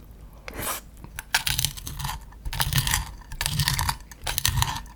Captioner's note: the pan scraping